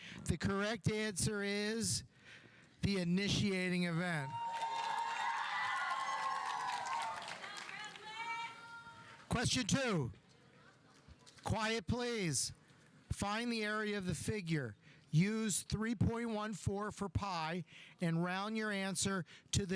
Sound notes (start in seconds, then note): 4.2 audience cheering; 4.4 audience applauding